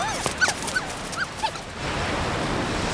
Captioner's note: dogs whimpering